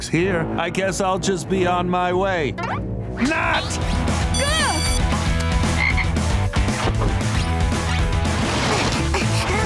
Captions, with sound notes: I guess I'll just be on my way. NOT! Ugh! [ribbiting] [grunting]